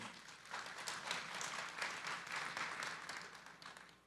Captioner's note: audience applauds